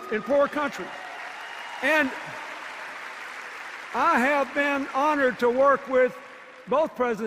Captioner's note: applause and cheers